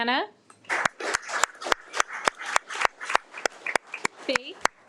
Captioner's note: audience applauding